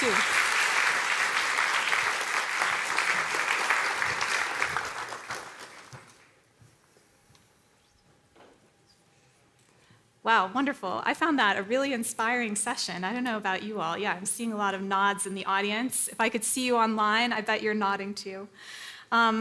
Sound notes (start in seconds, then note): 6.4 applause